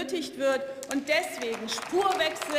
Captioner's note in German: Beifall